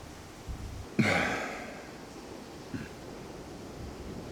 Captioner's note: sighs